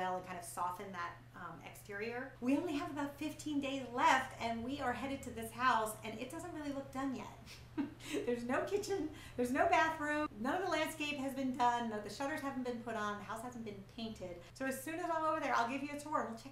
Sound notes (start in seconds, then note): 7.7 laughing